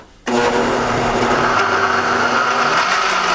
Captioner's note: whirring